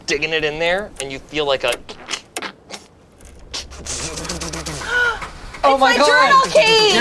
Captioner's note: engine sputters